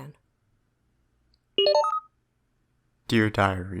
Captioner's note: SFX: same “login” noise as MILES’s previous diary entry